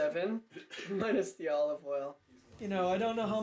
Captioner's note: laughs